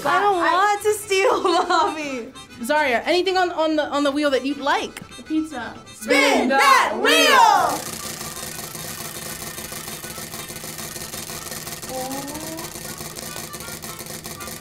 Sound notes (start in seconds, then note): 1.0 laughs; 7.7 wheel rattling